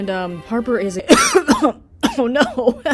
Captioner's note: coughing fit